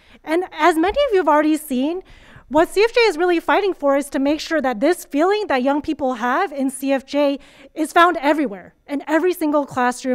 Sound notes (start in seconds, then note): none